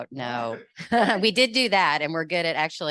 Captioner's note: laughs